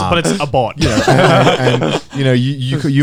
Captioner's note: Joey and Garnt laughing